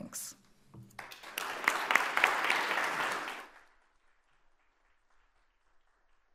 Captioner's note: attendees and panelists applauding